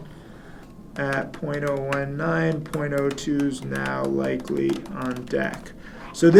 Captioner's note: typing